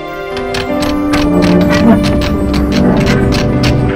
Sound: clunking

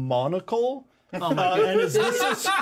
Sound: laughs

